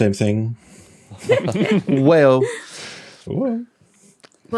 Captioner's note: group snickering